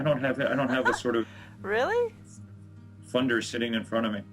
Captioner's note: gülüyor